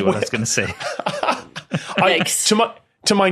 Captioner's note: laughs